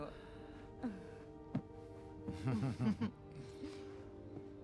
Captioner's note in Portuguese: risadas